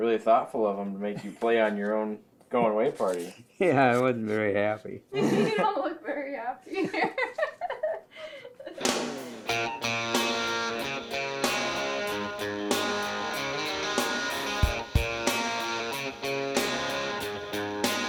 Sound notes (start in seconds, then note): 5.1 laughing; 9.0 upbeat guitar music